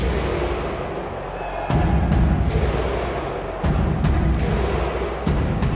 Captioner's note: crowd cheering; dramatic music continues